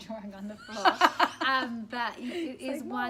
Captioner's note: laughter